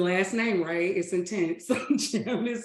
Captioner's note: laughs